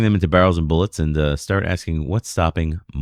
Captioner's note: uh